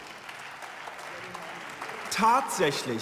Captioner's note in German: Beifall